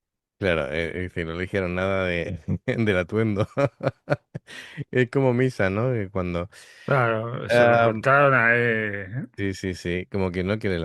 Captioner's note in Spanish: risas